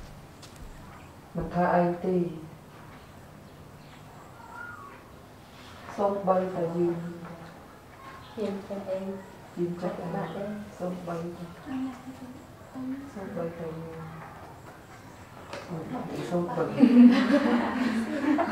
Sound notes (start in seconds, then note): 14.3 chattering